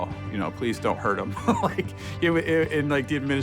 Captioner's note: laugh